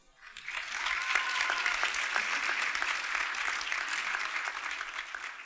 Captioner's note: audience cheers and applauds